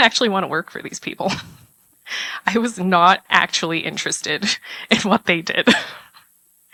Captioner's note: laugh